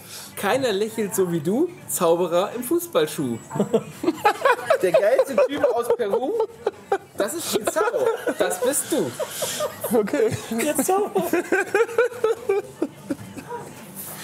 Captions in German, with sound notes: "Keiner lächelt so wie du, Zauberer im Fußballschuh. Der geilste Typ aus Peru, das ist Pizarro, das bist du." - Okay. *Lachen*